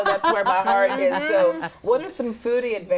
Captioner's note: group laughs